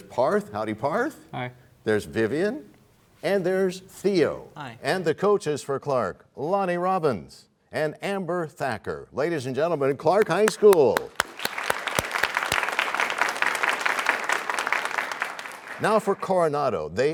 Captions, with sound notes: -There's Parth. Howdy, Parth. -Hi. -There's Vivian. -And there's Theo. -Hi. -And the coaches for Clark, Lonnie Robbins and Amber Thacker. Ladies and gentlemen, Clark High School! [applause] Now for Coronado.